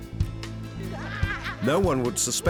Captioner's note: laughter